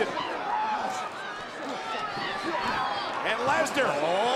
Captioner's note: audience cheering